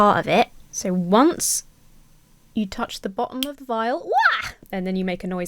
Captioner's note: squeals